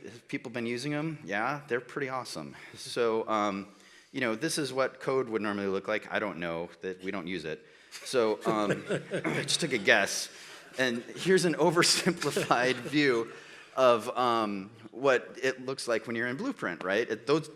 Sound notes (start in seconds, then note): 8.0 laughs; 8.4 audience laughs